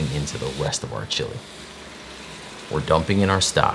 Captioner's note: vegetable stock pouring